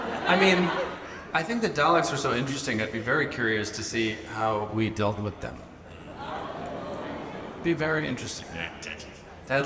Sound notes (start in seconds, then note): 0.0 audience laughs; 5.8 audience murmurs